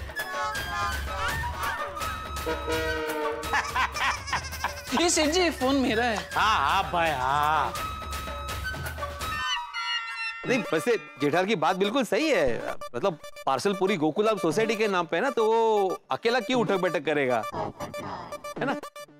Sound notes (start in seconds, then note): 0.1 comical music; 3.5 laughing